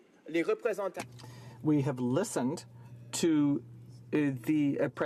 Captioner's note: speaking French